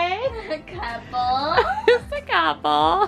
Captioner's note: giggles